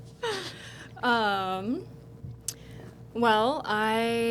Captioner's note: laughter